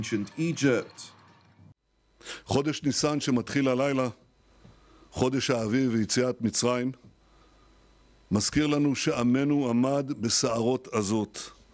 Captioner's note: Hebrew